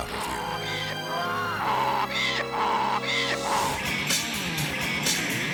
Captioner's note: donkey braying; romantic music; upbeat music